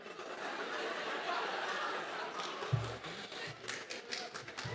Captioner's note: audience laughing